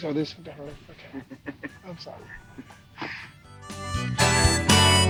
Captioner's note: Barney laughs; funky music plays